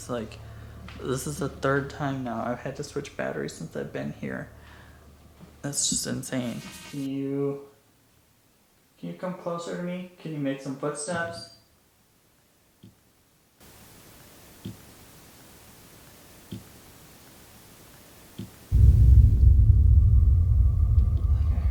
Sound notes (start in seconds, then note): 13.8 tapping; 18.7 ominous music